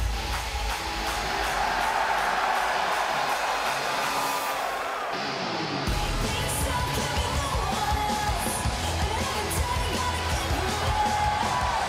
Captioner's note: crowd cheering